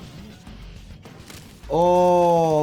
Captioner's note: rock music; bones cracking